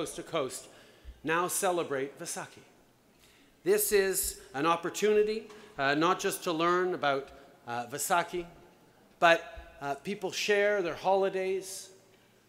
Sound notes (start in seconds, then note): none